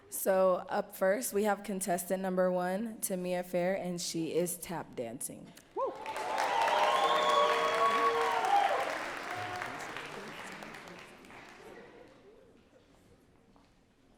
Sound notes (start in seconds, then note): 8.5 audience cheering and clapping